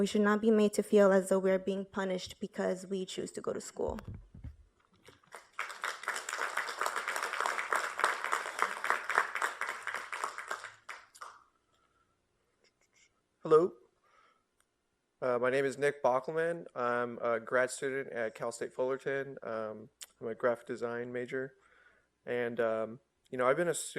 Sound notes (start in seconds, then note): 9.5 applause